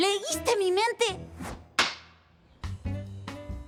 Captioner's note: clack